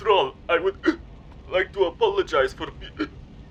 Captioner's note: hicc